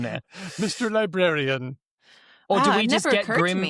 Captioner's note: laughs